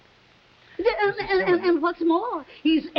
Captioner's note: stammering